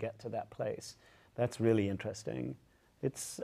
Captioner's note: none